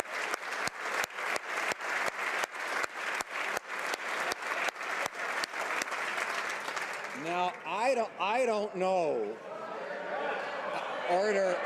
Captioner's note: applause